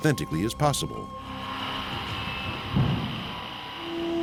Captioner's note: power saw whirring